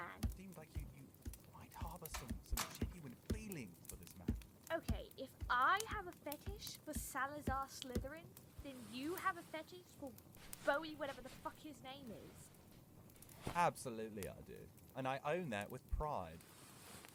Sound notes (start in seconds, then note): 8.0 rustles; 16.1 sheets rustle